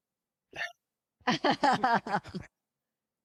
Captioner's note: laughing